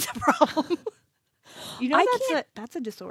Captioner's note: laughs